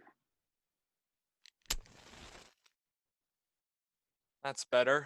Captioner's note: match strike